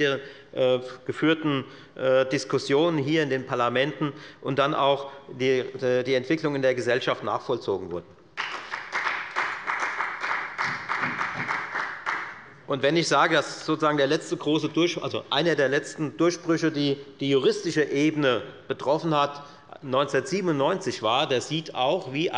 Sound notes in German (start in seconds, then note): 8.3 Beifall bei der FDP und bei Abgeordneten der CDU